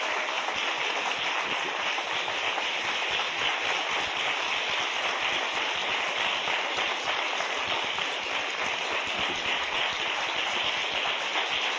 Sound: applause

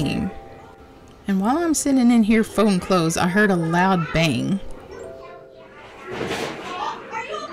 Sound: bang

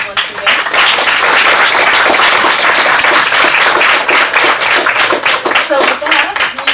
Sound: applause

